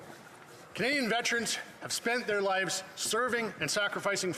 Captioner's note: speaking French